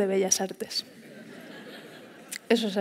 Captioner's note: laughter